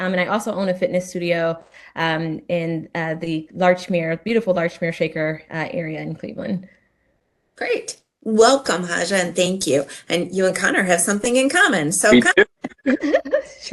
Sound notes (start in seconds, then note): 12.6 laughter